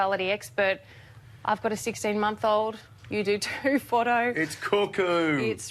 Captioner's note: laughs